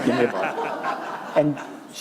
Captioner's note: laughter